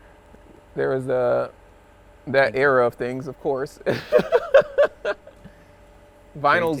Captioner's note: laughs